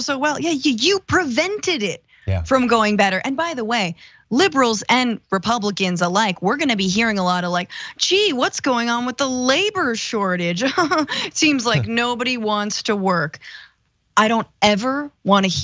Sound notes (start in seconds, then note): 11.6 laugh